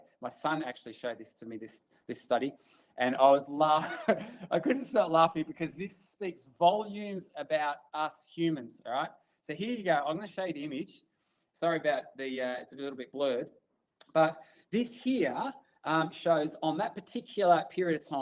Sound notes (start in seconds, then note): 3.8 laughs